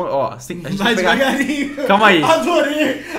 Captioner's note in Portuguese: risos